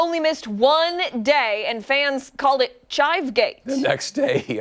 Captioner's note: laughter